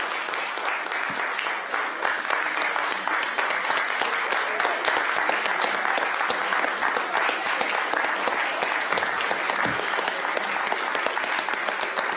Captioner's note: applause